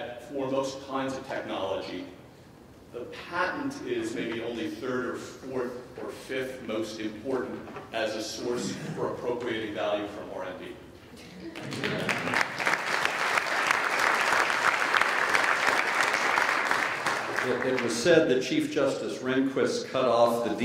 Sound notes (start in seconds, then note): 11.5 applause